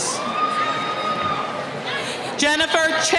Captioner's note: cheering